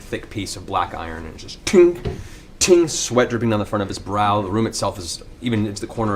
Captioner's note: ting ting